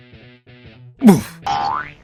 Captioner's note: grunt